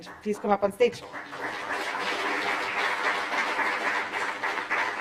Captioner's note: applause